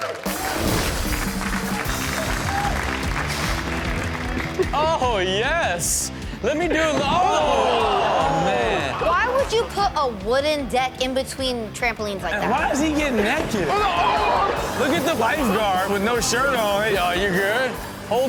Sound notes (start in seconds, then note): 0.0 audience cheering and clapping; 3.3 upbeat music; 7.0 everyone exclaiming